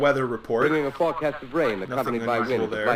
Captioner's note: radio